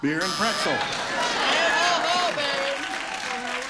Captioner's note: buzzer